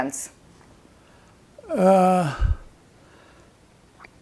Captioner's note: pauses 6 seconds